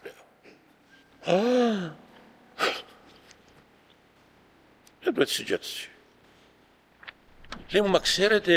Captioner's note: he sighed